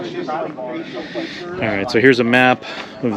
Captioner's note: team members chattering